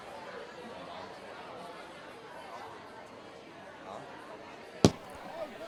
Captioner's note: indistinct chatter